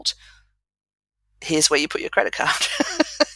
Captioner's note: laugh